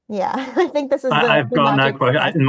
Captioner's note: laughing